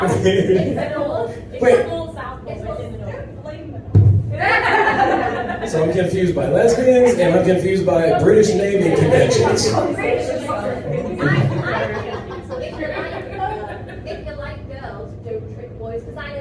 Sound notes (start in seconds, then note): 0.0 laughs; 4.4 audience laughs; 10.4 audience members continue to chatter